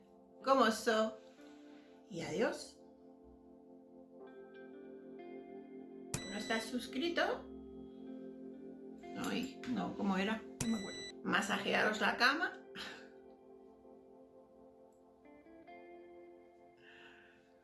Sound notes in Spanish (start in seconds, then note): 6.1 ruido: beeep!; 10.6 ruido: beeep!; 12.6 risa ahogada